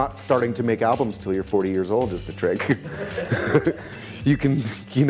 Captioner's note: chuckles